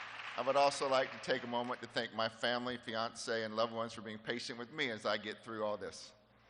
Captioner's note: appuse